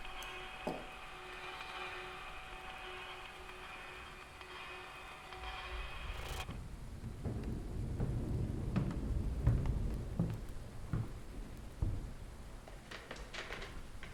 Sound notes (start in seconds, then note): 7.9 thunder rolling